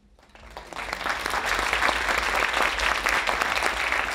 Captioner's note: audience applauding